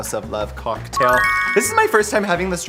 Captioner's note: sparkle sound effect